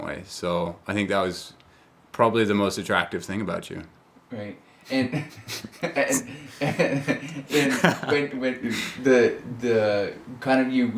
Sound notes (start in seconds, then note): 4.9 laughs